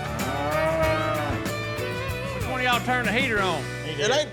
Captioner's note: mooing